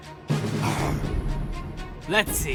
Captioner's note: growls